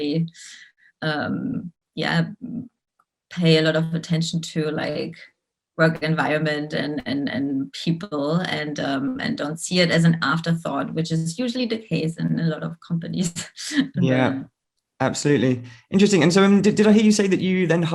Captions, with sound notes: Yeah, pay a lot of attention to like work environment and people, and don't see it as an afterthought, which is usually the case in a lot of companies. (giggles) - Yeah, absolutely. Interesting, and so did I hear you say